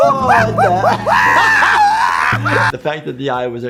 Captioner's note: laughing